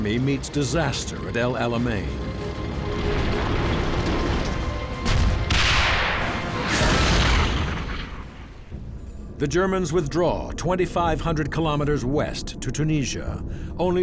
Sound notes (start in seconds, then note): 2.5 tank engine whirring; 5.2 tank turrets firing; 6.9 tank explodes